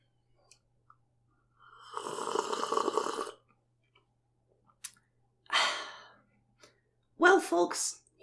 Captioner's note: long sip of coffee